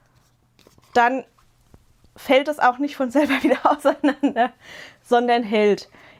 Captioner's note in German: gelächter